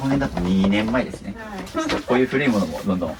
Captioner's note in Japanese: none